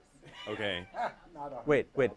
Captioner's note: chuckles